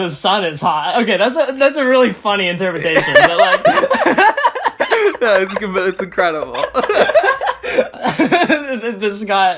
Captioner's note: both laugh